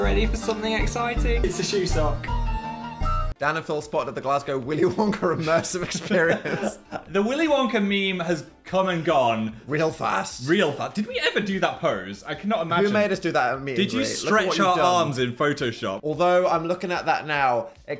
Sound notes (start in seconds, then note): 2.6 whimsical music; 5.3 laughs; 6.9 Phil laughs